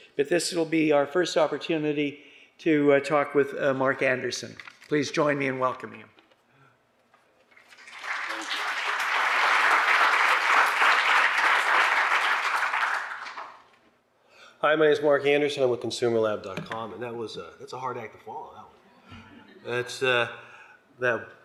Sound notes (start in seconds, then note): 7.6 applause